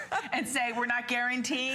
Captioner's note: laughter